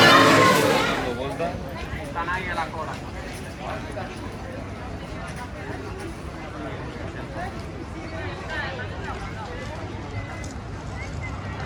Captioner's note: park ambience